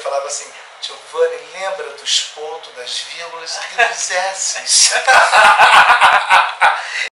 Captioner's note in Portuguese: risadas